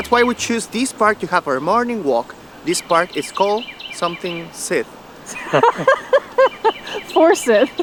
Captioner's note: laughter